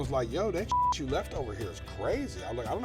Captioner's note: beep